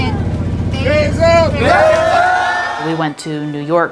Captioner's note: cheering